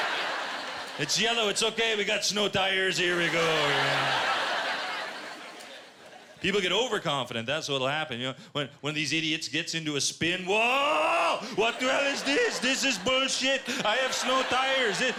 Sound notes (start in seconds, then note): 1.6 quebecois accent; 10.0 quebecois accent